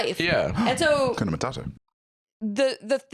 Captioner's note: gasps